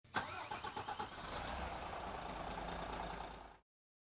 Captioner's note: car engine starting